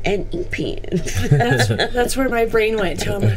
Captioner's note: group laughing